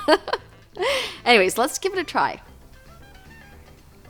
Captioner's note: laughs